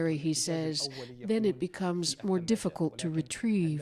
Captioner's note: speaking alternate language